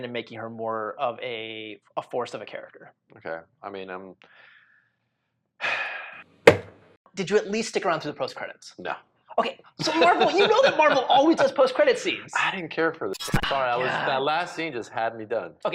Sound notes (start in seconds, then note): 5.6 sighs; 6.4 stamp bangs